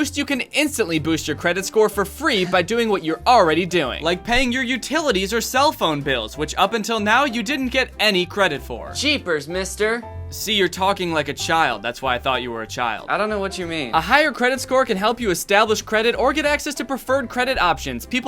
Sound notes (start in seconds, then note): 10.3 voiceover